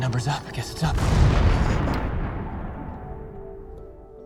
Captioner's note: bomb explodes